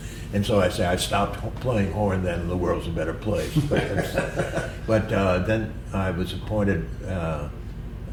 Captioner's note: laughter